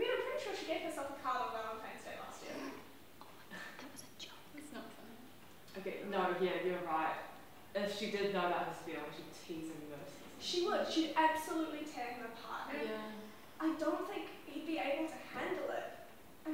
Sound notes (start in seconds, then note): 3.1 whispering